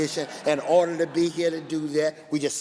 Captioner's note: laughing